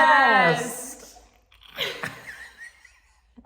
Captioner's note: laughter